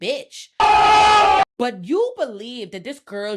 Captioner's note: screaming